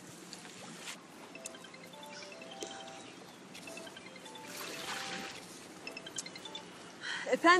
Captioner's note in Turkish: Telefon çalma sesi